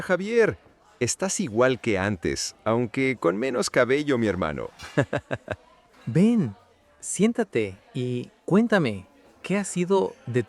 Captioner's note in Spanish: risas